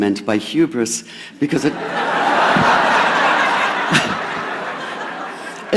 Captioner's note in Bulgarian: Смях